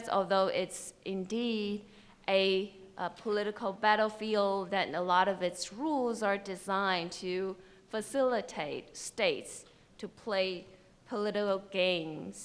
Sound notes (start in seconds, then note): none